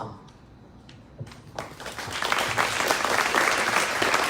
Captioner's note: crowd claps